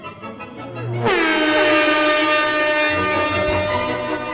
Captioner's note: air horn blows